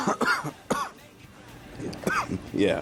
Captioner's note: Don coughing continuously; coughing